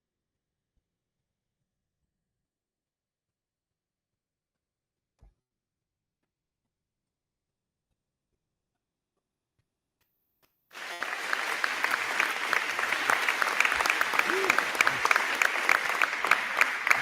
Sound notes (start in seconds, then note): 10.7 crowd cheering; 10.7 crowd clapping